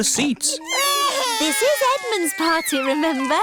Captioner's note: babies crying